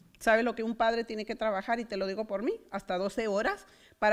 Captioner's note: foreign language